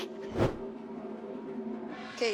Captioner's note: transition whooshes